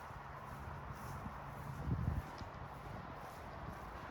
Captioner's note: traffic noise